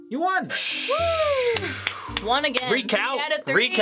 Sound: air hisses from mouth

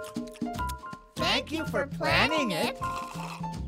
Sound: slurping

